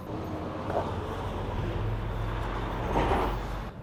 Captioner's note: obnoxious truck drives